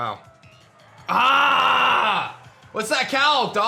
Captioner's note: grunts